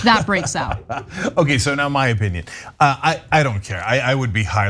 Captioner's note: laugh